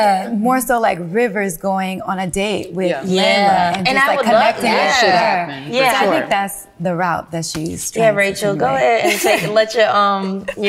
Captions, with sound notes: More so like rivers going on a date with. - And I would love that. (indistinct conversation) - I think that's the route that she's-- - Yeah, Rachel, go ahead and let your husband